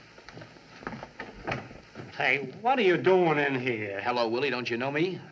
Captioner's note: door Closes